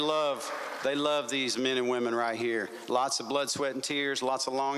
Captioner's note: applause